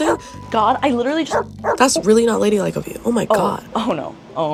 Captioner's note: dog bark